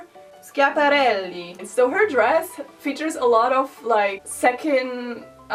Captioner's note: in Italian accent